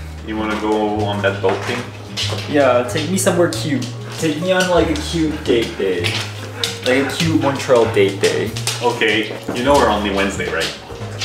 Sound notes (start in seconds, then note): 4.1 nails clacking